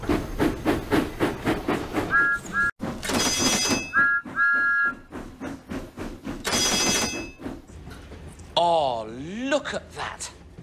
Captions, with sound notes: [THOMAS WHISTLES] [SIGNALS CLANG] [THOMAS WHISTLES] [SIGNALS CLANG] Ah, look at that!